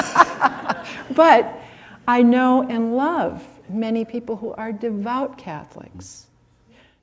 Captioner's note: laughs